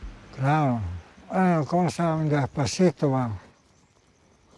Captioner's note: speaking Spanish